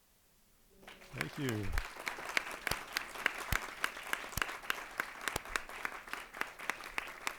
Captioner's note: crowd applauding